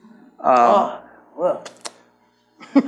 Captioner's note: laughs